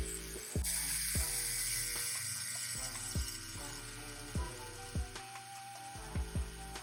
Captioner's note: tattoo gun buzzing; slow groovy music